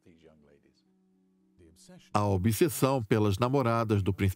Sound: voiceover

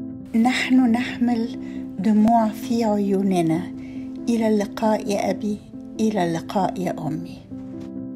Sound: Arabic

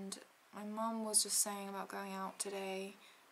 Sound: none

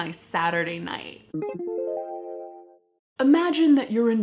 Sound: electronic, upward step beep boop

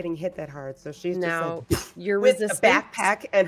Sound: mimics being blasted

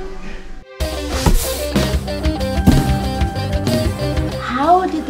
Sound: fire ball explosions

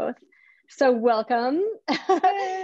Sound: laughs

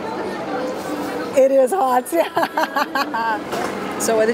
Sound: laughs

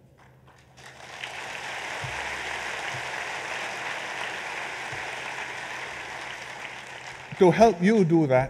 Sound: applause

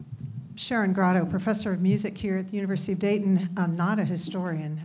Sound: woman's Voice

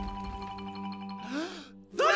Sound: gasp

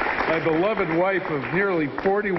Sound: applause

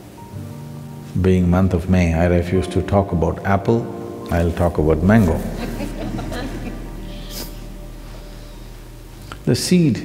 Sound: few laugh

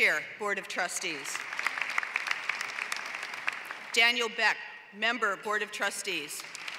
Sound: applause; applause

